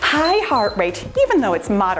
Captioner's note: timer beeps